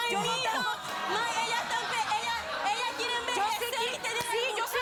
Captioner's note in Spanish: gritos y exclamaciones